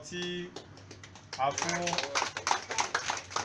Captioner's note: clapping